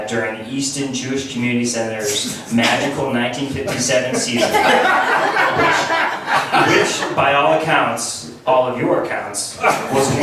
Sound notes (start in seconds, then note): 3.6 laughs